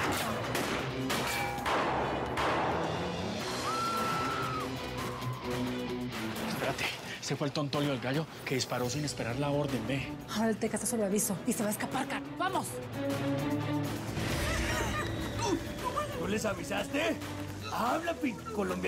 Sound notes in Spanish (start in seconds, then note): 3.4 gritos; 14.8 exclamaciones